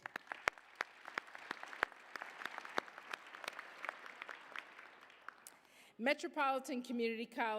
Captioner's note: applause